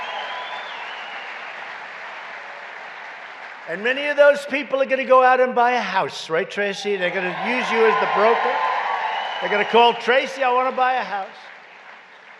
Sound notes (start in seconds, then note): 0.0 applause; 6.8 applause